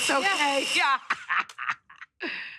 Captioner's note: laughs